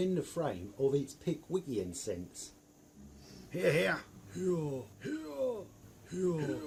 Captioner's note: cries of "Hear Hear"